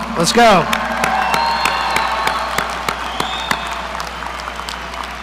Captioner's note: audience applauding